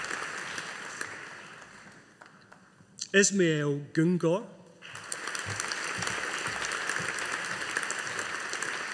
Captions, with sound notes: Ismail Gungor. (AUDIENCE APPLAUDING)